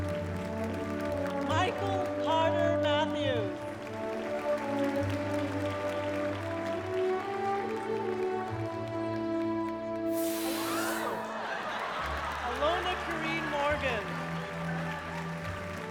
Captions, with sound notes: MICHAEL CARTER MATTHEWS. [APPLAUDING] [POPPING] [LAUGHTER AND APPLAUSE] ALONA KAREEN MORGAN. [CROWD APPLAUDS]